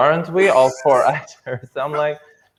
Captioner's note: laughs